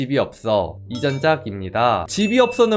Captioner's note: voiceover